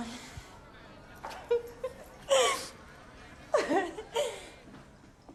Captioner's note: laughing